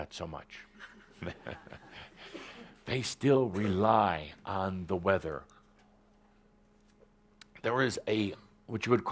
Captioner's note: chuckling